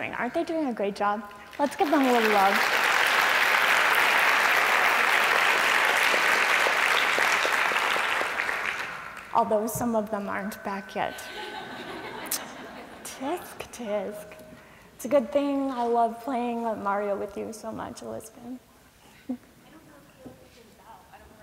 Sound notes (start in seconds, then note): 6.9 applause; 11.1 laughter